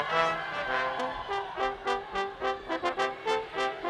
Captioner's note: upbeat orchestral music; people cheer